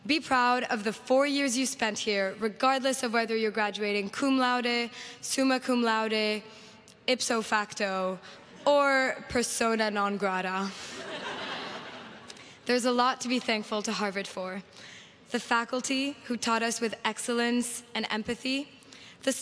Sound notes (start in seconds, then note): 10.8 crowd laughs